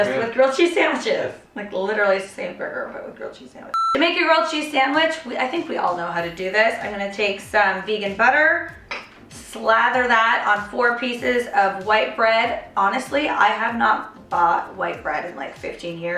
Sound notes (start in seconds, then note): 3.7 beep